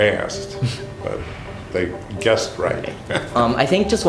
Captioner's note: laughs